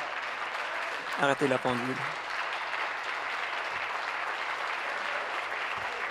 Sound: applause; voice fading; applause

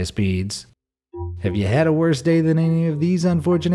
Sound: tone chiming

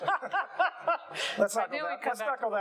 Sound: laughing

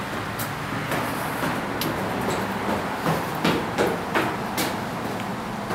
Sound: footsteps

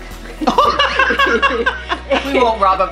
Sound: laughing

